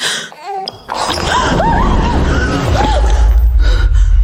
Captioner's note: screaming